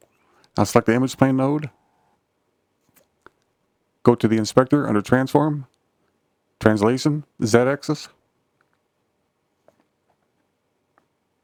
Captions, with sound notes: Now select the image plane node. [silence] Go to the inspector under transform, translation, z-axis.